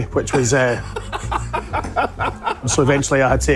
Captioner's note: laughs